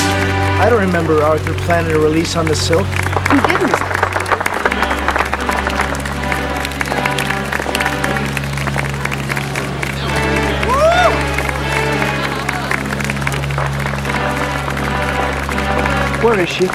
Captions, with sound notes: - I don't remember Arthur planning to release on the silk. - He didn't. (applauding) Where is she?